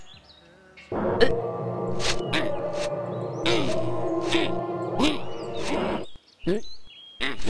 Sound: mellow guitar music; grunts angrily; loud TV sounds; mellow guitar music

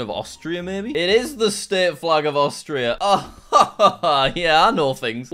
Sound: chuckles

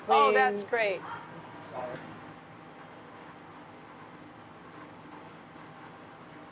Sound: speaking Greek

